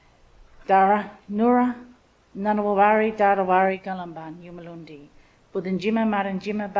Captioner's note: speaks in Ngunnawal language